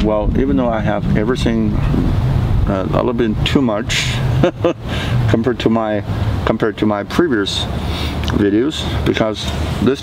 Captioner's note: lauphing